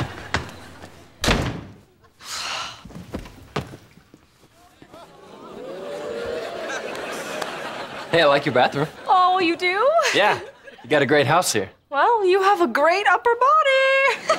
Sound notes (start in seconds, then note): 2.2 sighing